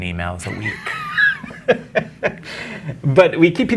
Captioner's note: guy laughing